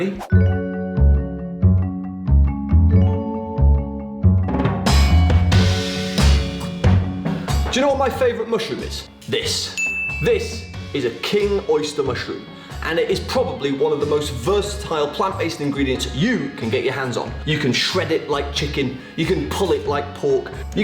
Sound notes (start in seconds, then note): 0.2 upbeat music; 9.7 gentle chime